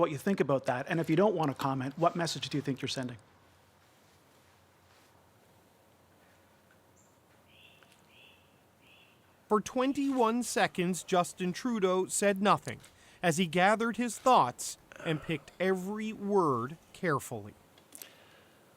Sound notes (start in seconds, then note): 6.8 silence